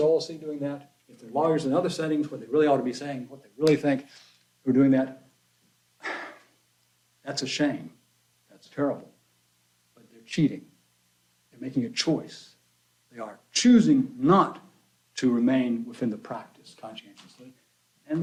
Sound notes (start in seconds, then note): 6.0 sighs